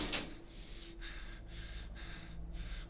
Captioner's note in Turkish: Nefes sesi